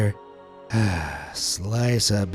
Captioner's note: sigh